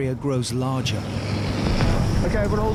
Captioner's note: engine whirring